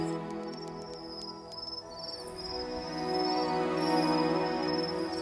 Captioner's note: insects chirping; soft music